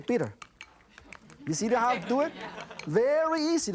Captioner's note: audience laughter